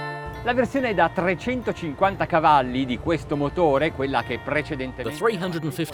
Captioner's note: speaking foreign language